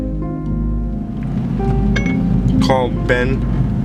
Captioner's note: gentle music; phone chimes